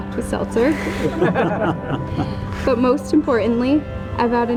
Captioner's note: people laughing